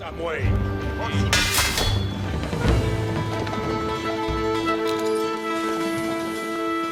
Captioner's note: dramatic music; swords clanging